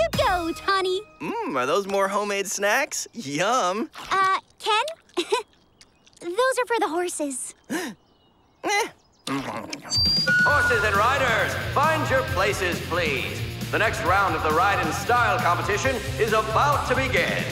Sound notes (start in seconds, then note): 7.6 gasps